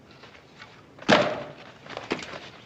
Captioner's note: thud!